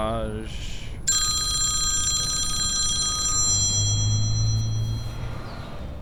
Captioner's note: phone ringing